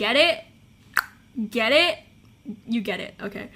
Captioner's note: clicks tongue